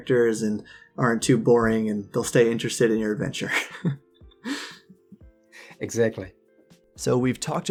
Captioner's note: laughs